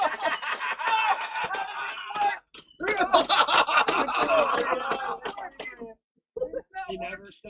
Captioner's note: laughs evilly